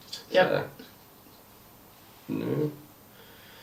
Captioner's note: quiet talking